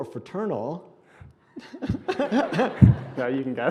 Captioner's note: laughing